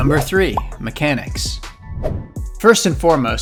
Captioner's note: air whooshing